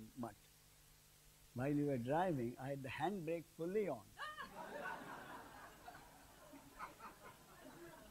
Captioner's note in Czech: smích